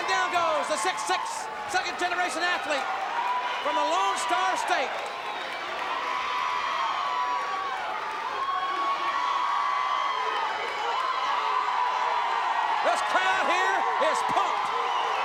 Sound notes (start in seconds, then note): 7.2 crowd cheers